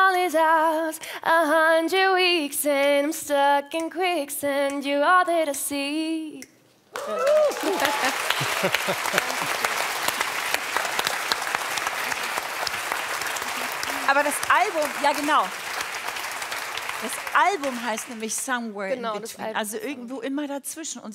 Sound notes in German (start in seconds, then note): 6.9 Applaus